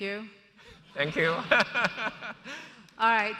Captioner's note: laughs